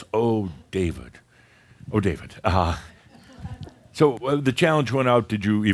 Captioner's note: a few chuckles